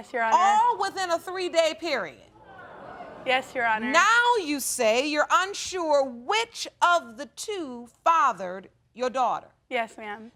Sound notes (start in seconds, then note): 2.4 audience groaning